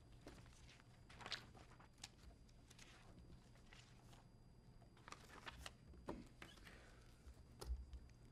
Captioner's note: rustling